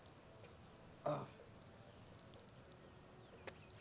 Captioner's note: urinating